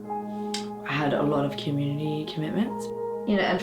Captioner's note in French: none